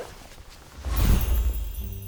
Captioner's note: poof!